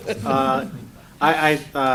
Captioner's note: laughter